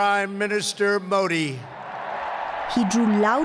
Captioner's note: cheering and applause